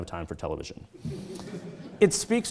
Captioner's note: audience chuckling